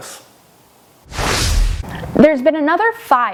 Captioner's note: graphics whooshing